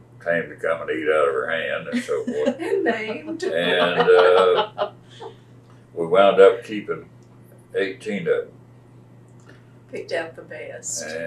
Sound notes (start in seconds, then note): 5.2 laughter